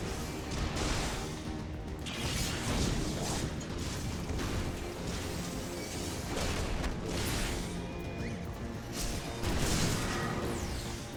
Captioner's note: gunshots